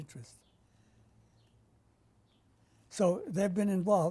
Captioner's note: pauses for 3 seconds